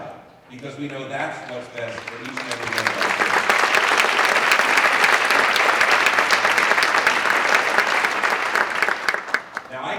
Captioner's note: applause